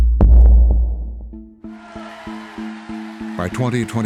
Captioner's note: crowd cheering